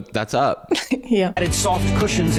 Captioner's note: laughs